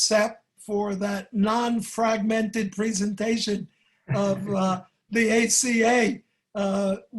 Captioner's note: brief laughter